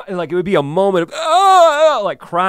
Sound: groans

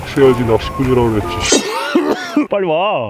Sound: cough

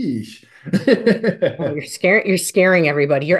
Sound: laughing

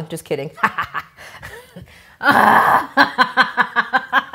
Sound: laughs

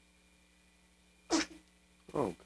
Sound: sneeze

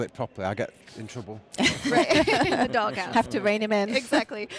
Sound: laughing

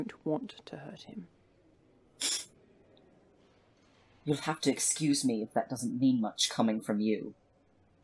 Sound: Remus snorts

